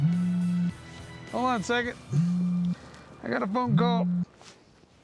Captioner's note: cell phone buzzing